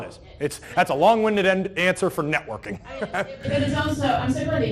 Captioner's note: laughs